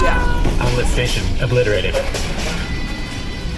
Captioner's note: distant clatters and cries of pain